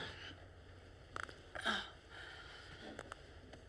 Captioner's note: clicking